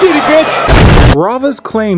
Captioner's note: boom